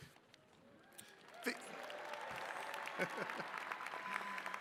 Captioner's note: attendees cheering and clapping; chuckles